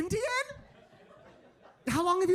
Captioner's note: audience laughing